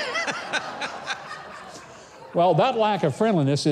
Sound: laughs

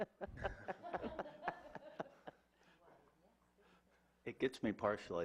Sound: laughs

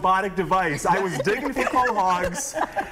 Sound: laughter

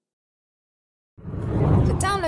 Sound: air whooshes

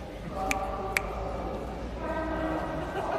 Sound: snaps to get attention

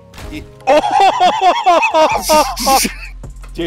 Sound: laughter

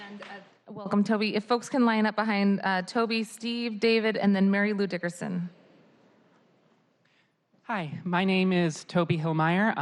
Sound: applause

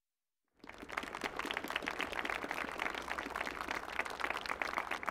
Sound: audience clapping

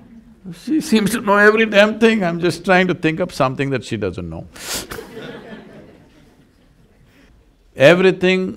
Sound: laughter

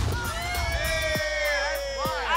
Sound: fire flames whooshing; all cheering

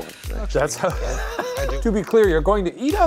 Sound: laughs

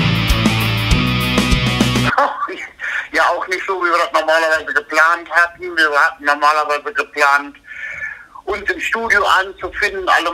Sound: laughs

